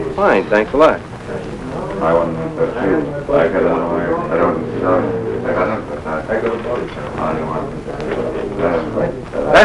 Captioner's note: speaking and mumbling